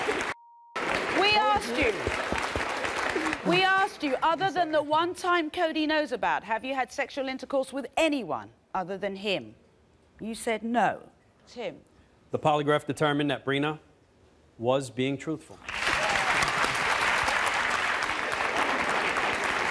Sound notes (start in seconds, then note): 15.6 audience applauding